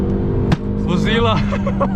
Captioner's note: aggresively smacks the trashcan